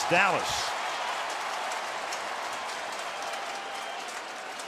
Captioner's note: cheering